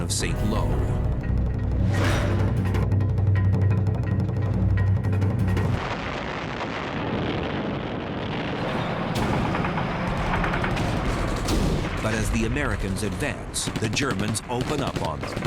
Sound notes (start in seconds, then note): 5.1 sounds of battle